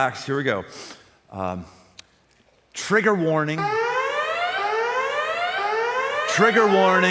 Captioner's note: alarm